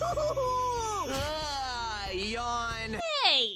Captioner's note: yawn